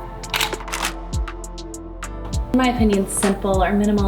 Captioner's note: camera shutters